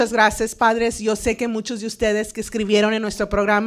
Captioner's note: speaking Spanish